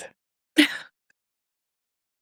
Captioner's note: laughs